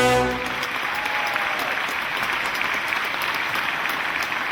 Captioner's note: audience applauding